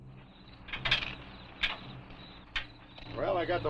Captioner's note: crickets chirping